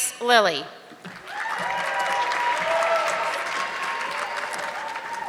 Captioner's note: audience clapping